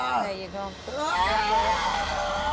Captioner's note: yelling